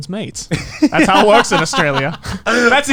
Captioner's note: laughs